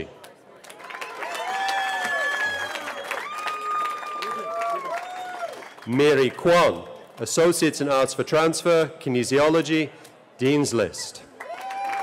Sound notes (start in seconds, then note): 2.6 cheering; 11.4 cheering